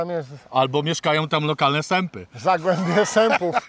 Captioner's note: laughter